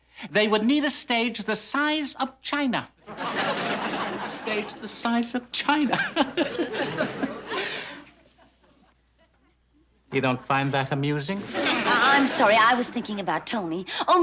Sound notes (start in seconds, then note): 5.9 laughs